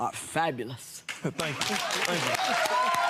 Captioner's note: cheering